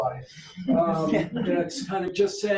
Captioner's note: audience members chuckling